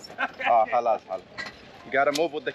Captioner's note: laughter